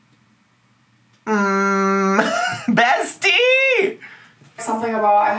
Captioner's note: chortles